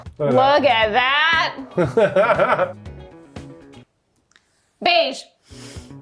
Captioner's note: laughing